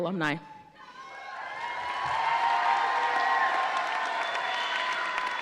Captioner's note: audience cheering